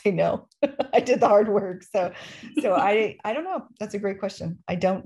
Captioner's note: laughter